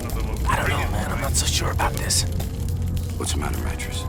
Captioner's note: whispering